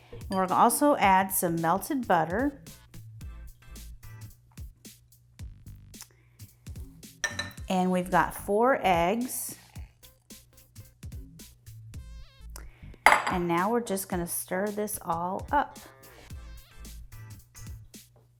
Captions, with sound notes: We're gonna also add some melted butter. (upbeat music) And we've got four eggs. (bowl clinking) And now we're just gonna stir this all up.